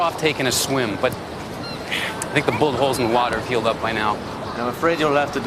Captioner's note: sighs